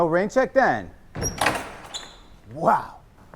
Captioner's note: door clacking